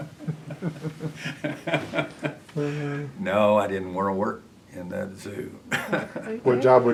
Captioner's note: laughter